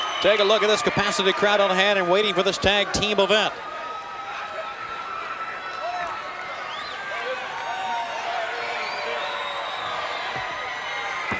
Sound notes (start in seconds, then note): 5.1 attendees cheering